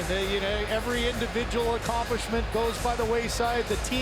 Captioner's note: booing